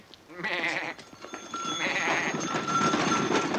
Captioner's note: goat bleating